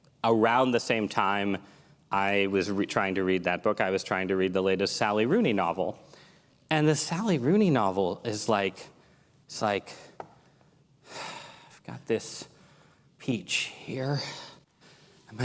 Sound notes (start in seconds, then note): 10.8 sigh; 11.6 dramatic voice